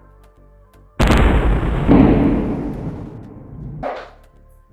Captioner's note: explosion